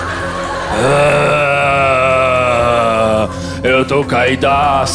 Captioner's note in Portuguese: grunhido